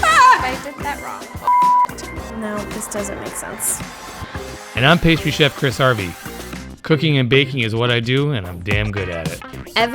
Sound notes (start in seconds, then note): 0.0 screaming; 1.4 beep